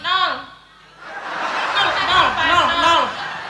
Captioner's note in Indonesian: tertawa